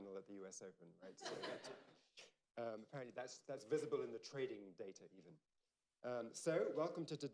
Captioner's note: laughter